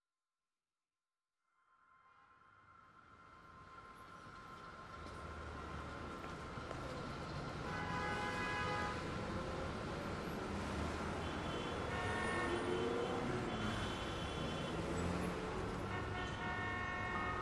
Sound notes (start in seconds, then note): 2.4 cityscape sounds